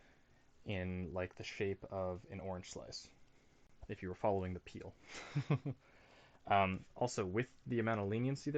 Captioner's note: chuckles